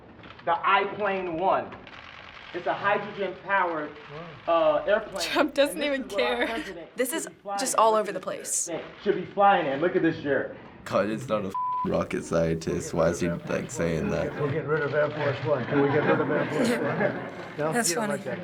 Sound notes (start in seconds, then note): 5.2 chuckles; 17.0 chuckles